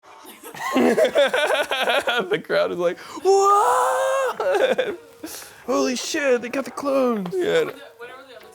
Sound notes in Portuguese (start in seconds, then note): 0.3 risos